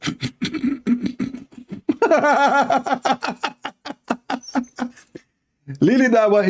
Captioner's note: Ketawa